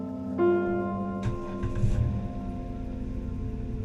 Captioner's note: car engine starting